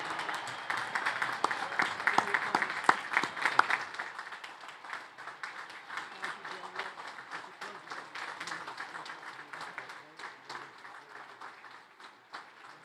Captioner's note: applause